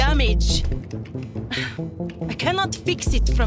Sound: sigh

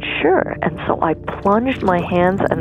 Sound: A splash

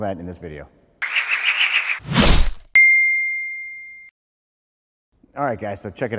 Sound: logo whooshes

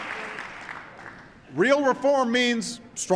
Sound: applause

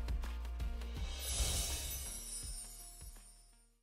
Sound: chimes ringing

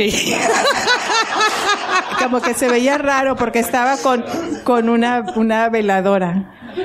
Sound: laughter

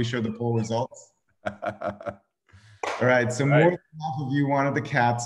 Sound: laughs

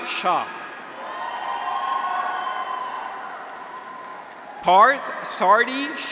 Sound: graduates cheer; audience applauds

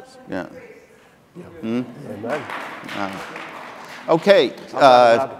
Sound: audience applauding

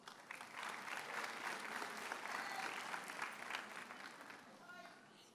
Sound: audience cheers and applauds

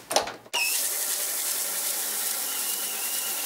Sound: quiet high-pitched whirring

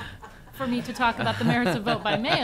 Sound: laughter

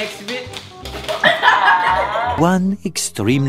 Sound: laughs

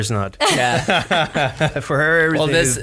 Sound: laughs

